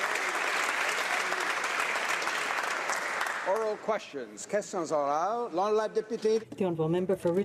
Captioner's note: some Applause